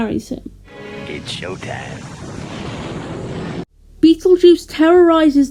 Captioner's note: thunder